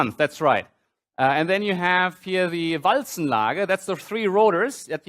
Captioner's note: german